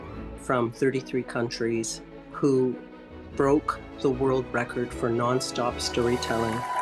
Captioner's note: cheers and applause